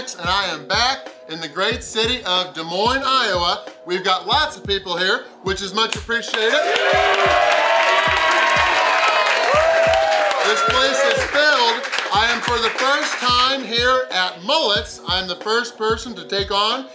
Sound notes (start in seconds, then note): 6.3 claps; 6.5 crowd applauds; 6.5 crowd cheers